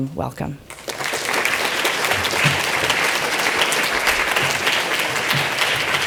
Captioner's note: audience applauds